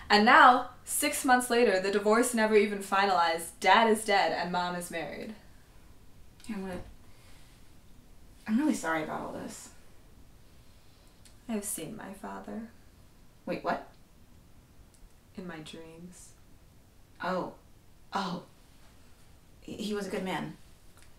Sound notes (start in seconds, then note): none